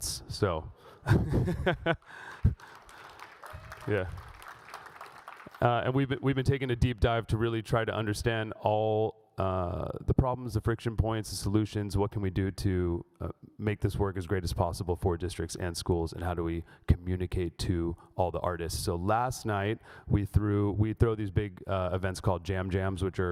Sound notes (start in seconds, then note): 1.0 laughs; 4.5 audience cheers